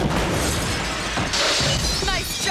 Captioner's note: glass clattering